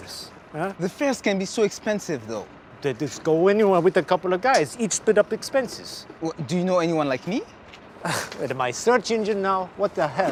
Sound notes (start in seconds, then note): 8.0 huffs